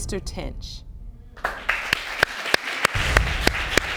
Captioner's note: audience applauding